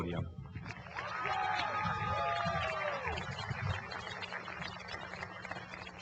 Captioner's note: cheering and applause